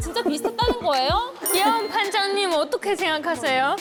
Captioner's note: imitating sound effect